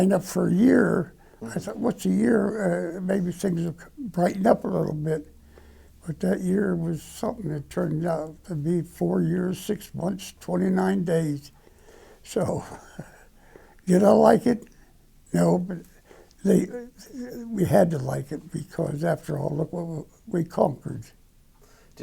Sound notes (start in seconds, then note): 12.2 laughing; 16.7 stutter; 20.2 stutter